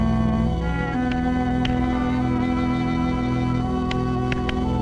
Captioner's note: clapping